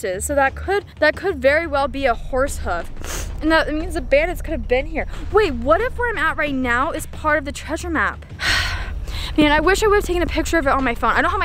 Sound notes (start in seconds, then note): 8.4 heavy sigh